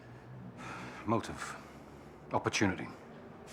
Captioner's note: sighs